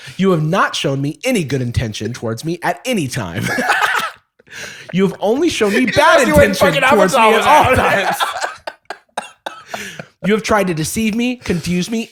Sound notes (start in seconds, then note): 3.4 laughs; 9.2 laughter